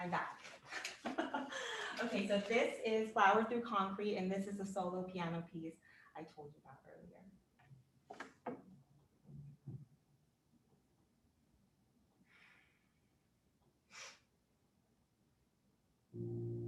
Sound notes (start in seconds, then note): 0.7 laughs